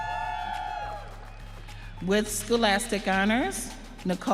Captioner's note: audience cheering